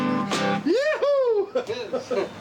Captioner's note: cheering